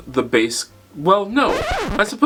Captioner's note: record scratch